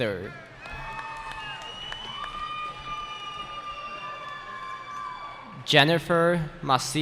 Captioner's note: cheering